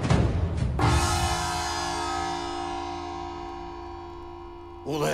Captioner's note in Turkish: Gong sesi